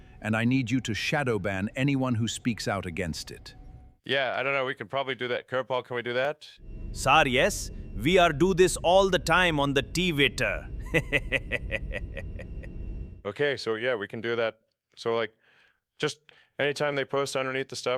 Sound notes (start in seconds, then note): 10.8 laughing